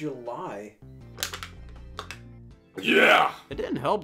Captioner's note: can crackles